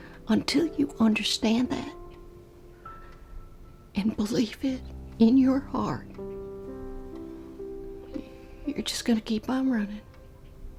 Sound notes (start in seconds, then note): none